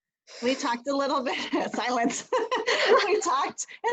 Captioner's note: laughter